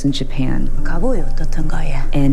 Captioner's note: soundbite of tv show, "pachinko"; as character, speaking non-English language